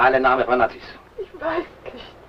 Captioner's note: foreign language